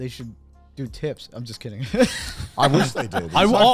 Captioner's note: chuckles